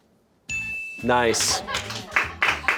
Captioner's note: bell chimes